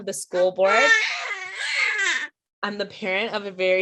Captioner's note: baby cries